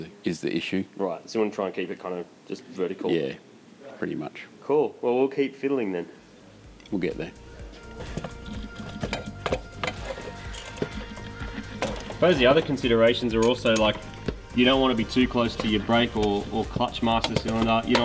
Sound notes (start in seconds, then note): 8.0 metallic clanking and clattering